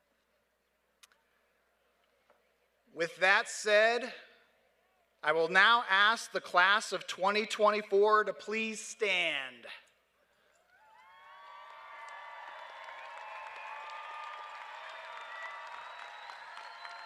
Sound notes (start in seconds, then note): 10.6 cheers and applause